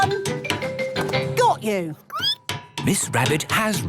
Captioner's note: squeaking